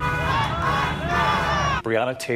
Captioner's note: yelling